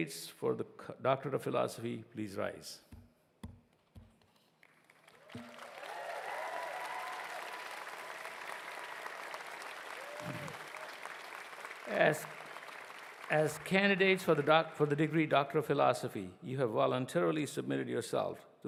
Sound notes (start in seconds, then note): 13.9 cheers and applause